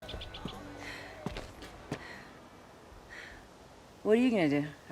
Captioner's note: breathing heavily